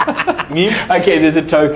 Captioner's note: laughing